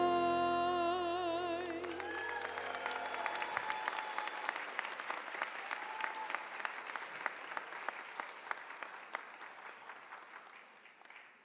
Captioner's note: applause